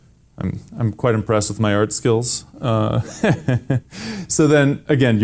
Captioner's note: laughs